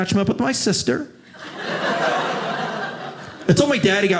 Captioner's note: audience laughing